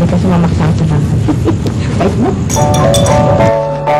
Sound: chuckles

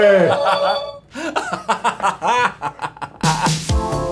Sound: laughs

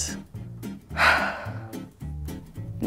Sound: sigh

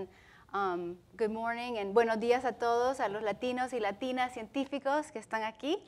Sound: speaking Spanish

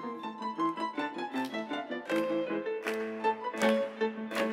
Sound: audience claps with music

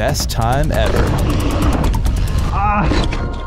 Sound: tiger roars

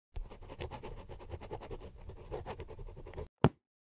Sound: scribble noises

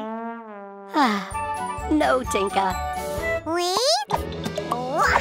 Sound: sigh

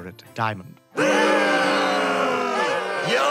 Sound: all booing

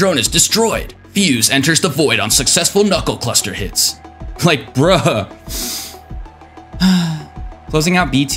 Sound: sigh

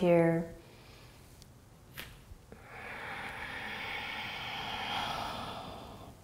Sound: breathing

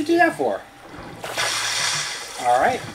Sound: water splashing

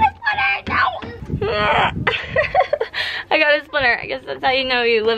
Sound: whimpers

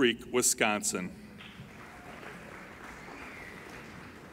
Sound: applauding

